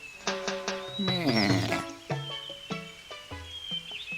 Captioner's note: sheep bleats in interest